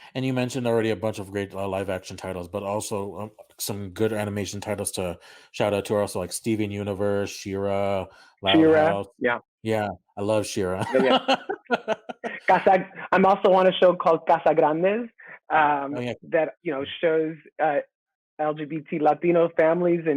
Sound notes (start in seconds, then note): 10.8 jovial laughter